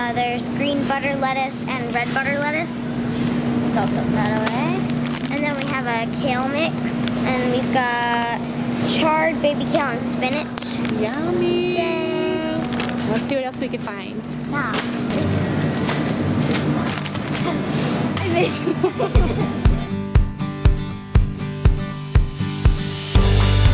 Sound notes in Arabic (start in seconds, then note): 18.2 يضحك